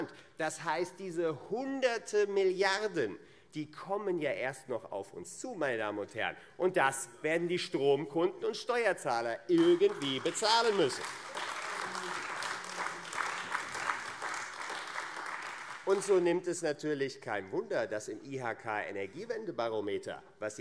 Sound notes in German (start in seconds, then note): 11.5 Beifall